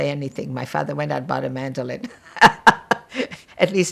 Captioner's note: laughing